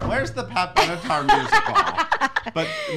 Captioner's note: laughing